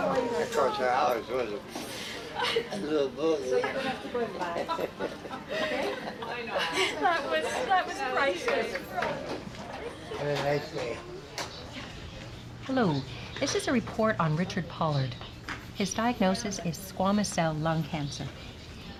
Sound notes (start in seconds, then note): 3.3 chuckling